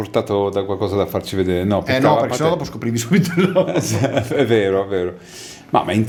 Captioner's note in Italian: risate